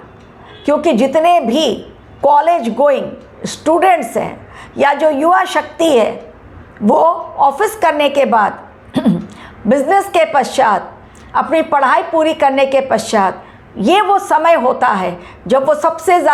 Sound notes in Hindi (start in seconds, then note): 8.9 गला साफ़ करने की आवाज़